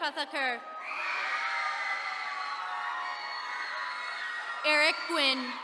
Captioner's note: attendees cheering